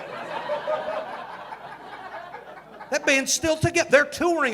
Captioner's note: audience laughing